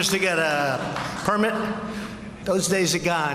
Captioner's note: applause